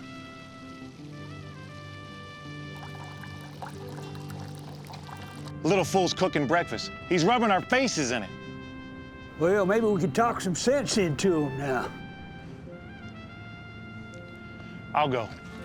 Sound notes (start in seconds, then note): 0.2 triumphant music; 2.6 pouring